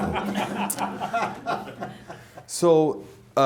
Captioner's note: chuckling